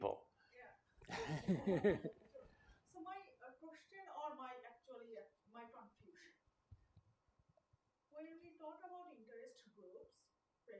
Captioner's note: laughter